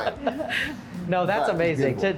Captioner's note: laughter